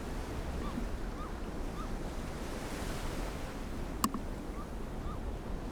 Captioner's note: bird squawks in the distance; waves lightly crashing